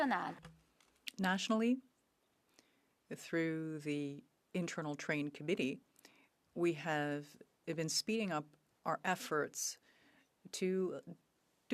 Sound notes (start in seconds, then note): 3.6 speaking French